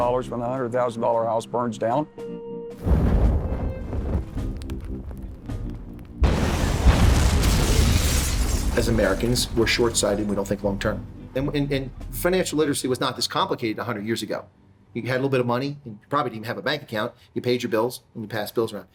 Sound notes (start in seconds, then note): 2.8 explosion roars; 4.3 fire crackling; 6.2 explosion booming